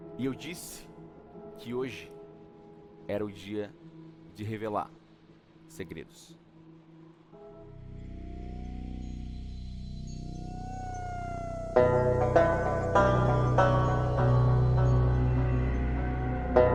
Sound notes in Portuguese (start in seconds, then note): 8.6 vento soprando; 11.8 banjo tocando